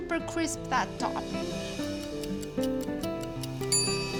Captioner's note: clock ticking; ding